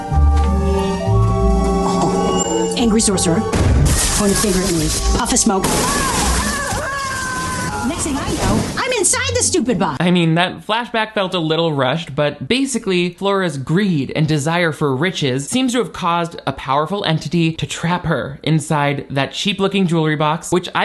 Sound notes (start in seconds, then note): 0.0 whimsical music; 5.4 Flora yells